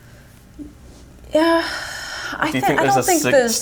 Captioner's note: sighs